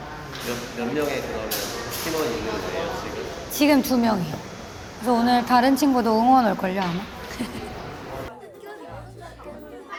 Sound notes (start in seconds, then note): 7.2 laughs